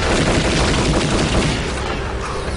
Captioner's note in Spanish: Disparos